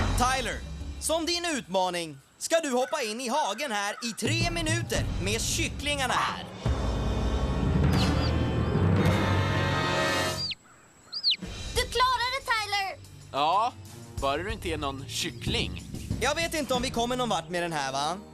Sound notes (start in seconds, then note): 7.7 cheeping